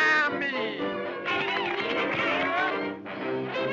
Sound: crowd cheers

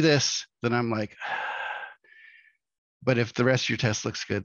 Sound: yawns

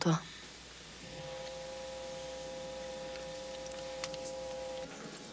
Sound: sound of camera zooming in

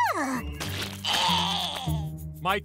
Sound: growling

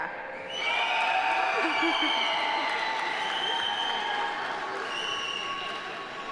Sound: audience cheering; audience applauding

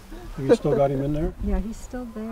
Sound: voiceover

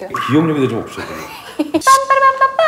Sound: laughing

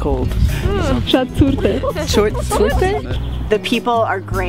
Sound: speaking in Armenian

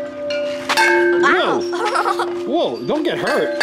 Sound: chimes ringing; laughing

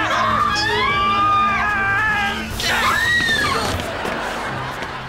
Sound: screaming

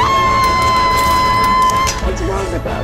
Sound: screams

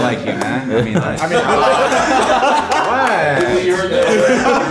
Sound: group laughing

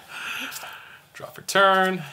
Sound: laughs

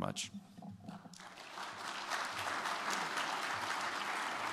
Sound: applause

